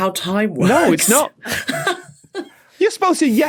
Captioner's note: laughs